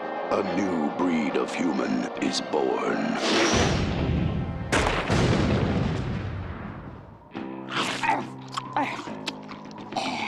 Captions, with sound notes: A new breed of human is born. (chomping)